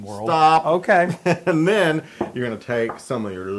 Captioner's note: laugh